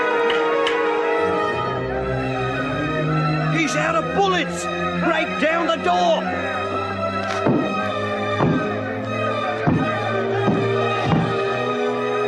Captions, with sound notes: (gun clicks) He's outta bullets! Break down the door! (officers banging on door)